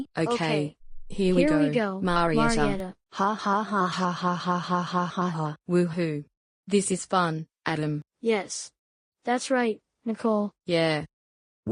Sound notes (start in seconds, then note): 3.0 Marieta laughs